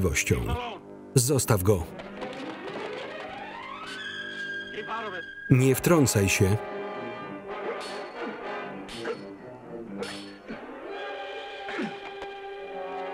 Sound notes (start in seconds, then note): 3.5 dramatic music; 7.6 steel clanging, grunting